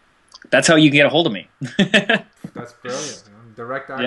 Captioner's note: laughs